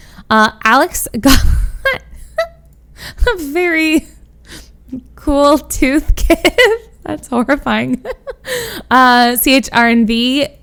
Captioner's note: laughs